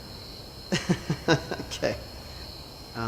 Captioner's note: laughs